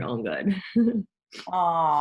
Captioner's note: laughs